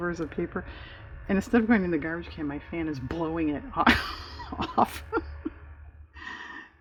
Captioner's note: laughs